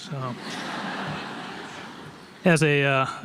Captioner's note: audience laughs